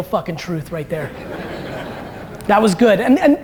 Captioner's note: audience laughter